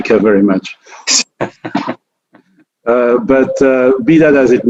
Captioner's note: laughing